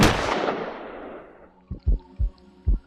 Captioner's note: gunshot; heart beating